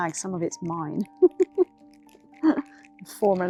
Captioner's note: laughing